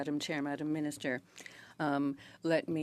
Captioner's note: speaking French